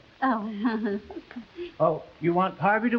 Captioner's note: Veta laughing nervously